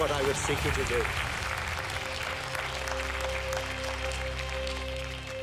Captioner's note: audience applauding